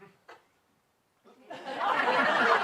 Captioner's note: laughter